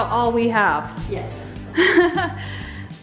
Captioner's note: mom laughing